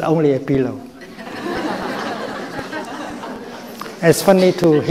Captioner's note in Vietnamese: Đại chúng cười